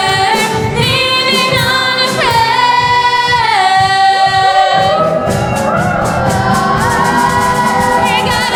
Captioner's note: audience cheers